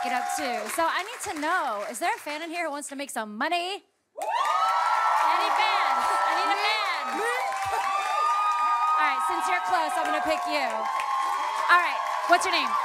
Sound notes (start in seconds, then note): 3.7 cheering, applause; 7.0 laughs